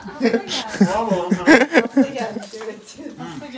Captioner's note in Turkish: Gülüşmeler